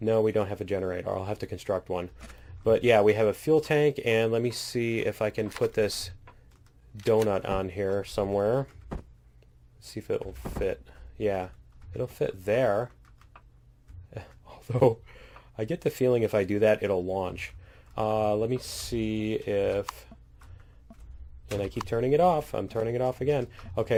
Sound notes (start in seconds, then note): 13.3 laughs